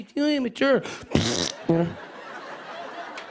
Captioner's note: blows raspberry; laughter